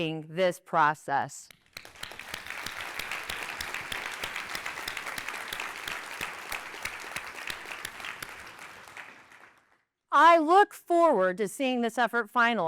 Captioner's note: applause